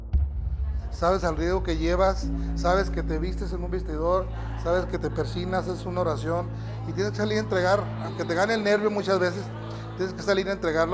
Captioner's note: Rey Misterio speaking Spanish; cheering